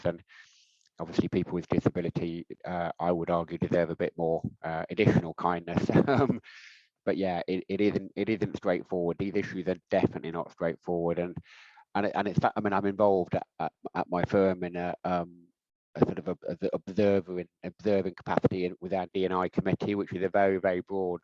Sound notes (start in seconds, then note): 5.9 laughing